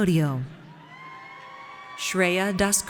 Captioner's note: audience cheers